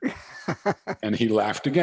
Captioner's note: laughs